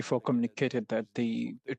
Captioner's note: speaking French